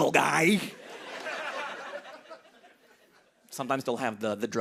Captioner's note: laughter